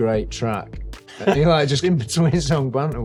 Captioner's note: chuckling